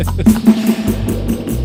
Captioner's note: upbeat music; laughing